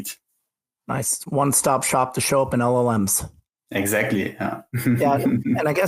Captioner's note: laughs